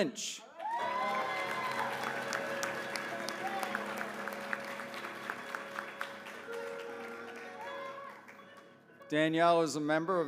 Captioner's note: applause